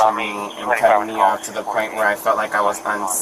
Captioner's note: radio chatter